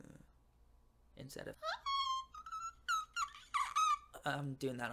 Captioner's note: dying pterodactyl again